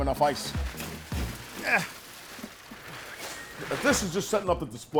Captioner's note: funky music; grunting